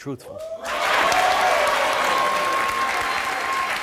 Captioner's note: applause